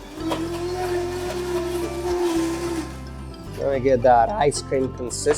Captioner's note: blender whirring